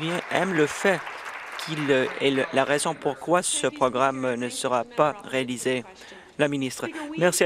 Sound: applause

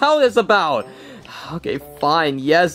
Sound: sighs

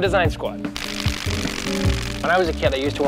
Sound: plastic flapping

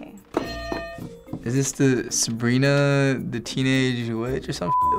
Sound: bell rings

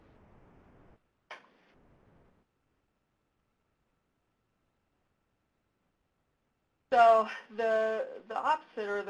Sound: pause

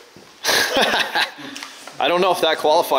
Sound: laughing

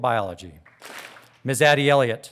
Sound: audience claps

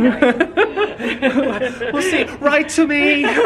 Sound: crying

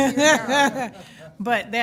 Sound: laughing

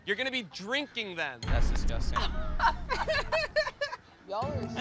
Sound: laughing

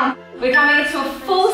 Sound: timer beeping

